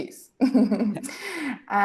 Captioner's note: laughs